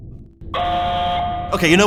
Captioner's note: alarm sounds